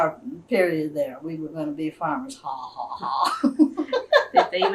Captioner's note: laughs